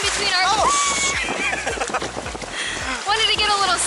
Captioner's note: laughter